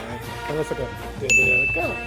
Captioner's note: bell chimes; drumming sounds